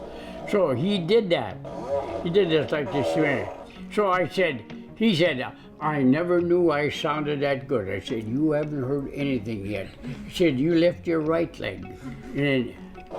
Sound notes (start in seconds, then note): 1.6 loud fart blares